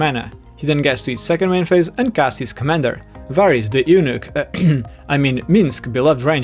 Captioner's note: ahem